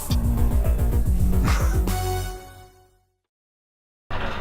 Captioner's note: laughing